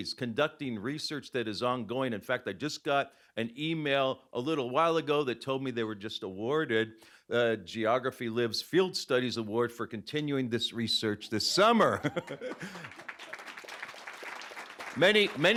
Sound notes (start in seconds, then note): 11.6 laughing; 13.6 applause